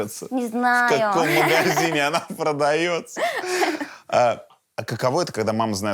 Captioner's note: both laugh